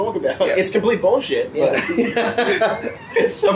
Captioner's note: laughs